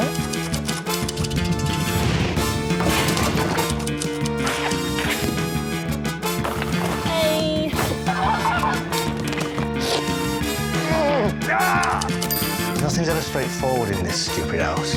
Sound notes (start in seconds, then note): 0.0 typewriter keys clicking; 0.3 clattering; 1.8 whirring; 3.6 typewriter keys clicking; 7.7 squawking; 9.4 grunting; 9.5 slurps